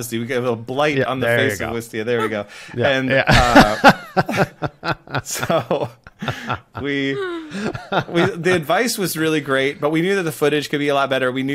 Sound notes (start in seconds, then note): 2.8 laughter